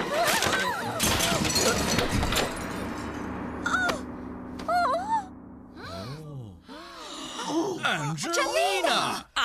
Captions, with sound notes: ( Crash! ) OHH! OOH! ( Guests Gasping ) ANGELINA!